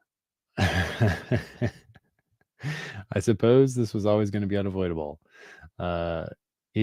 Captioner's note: chuckles